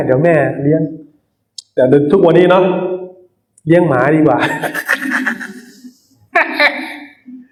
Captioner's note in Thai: เสียงหัวเราะ